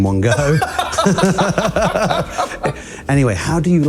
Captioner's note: laughter